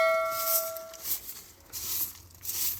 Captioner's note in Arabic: جرس